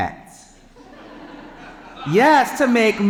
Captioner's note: audience laughing